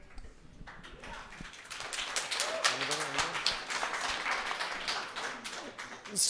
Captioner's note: applause